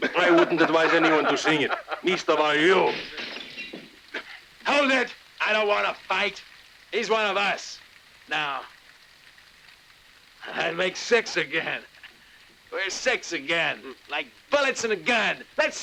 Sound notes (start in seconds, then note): 2.8 glass tinkles